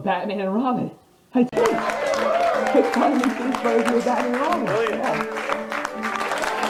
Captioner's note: Birdemic clapping in the background